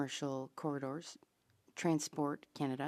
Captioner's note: speaking French